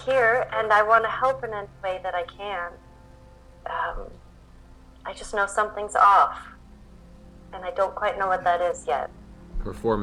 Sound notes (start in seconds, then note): none